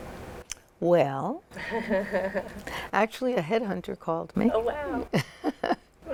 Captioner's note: laughter